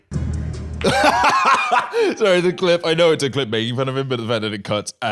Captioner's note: laughs